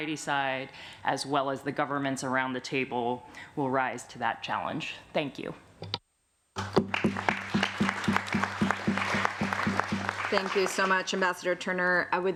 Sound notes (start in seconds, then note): 6.6 applause